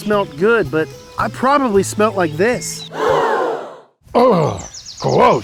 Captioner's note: crowd gasping